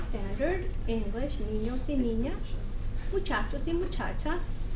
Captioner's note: foreign Language